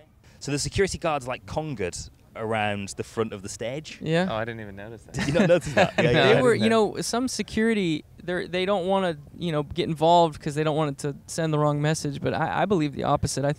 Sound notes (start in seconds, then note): 5.2 laughs